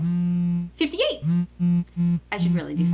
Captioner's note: more buzzing